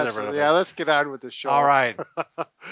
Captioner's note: laughs